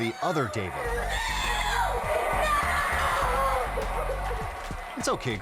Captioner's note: screaming